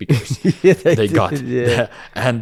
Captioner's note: laughs